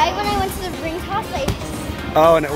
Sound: stomps

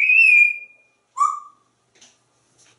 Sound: whistle

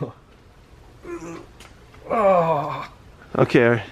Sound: groans

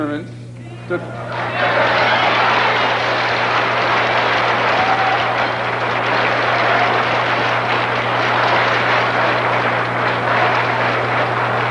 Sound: thunderous applause

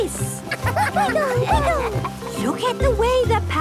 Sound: laughter

